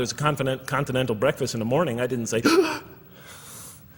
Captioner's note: expressing fear